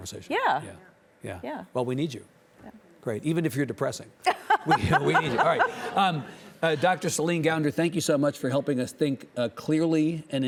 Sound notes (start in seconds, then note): 4.2 laughing